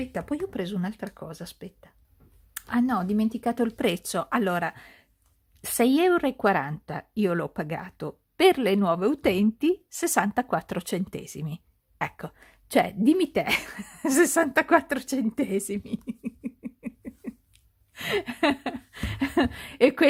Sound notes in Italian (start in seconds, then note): 15.7 risate